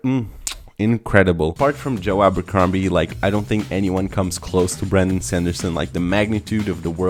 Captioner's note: smooch